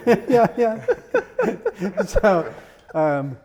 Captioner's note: laughs